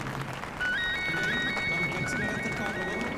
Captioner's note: phone rings